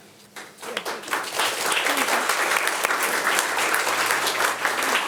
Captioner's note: attendees applauding